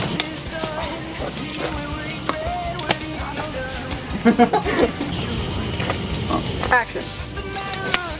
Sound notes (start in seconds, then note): 0.0 upbeat music; 4.4 laughing